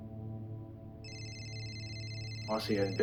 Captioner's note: phone rings